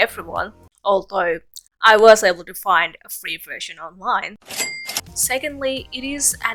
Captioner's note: cash register ka-ching